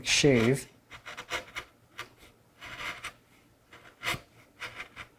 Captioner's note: chisel on wood scraping